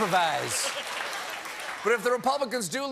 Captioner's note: laughter